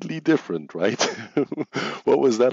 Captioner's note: chuckles